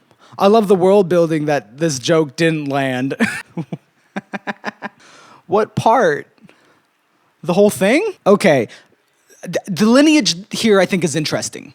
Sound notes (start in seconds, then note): 4.1 laughs